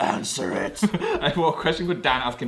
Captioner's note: laughs